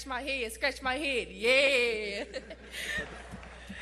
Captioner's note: laughter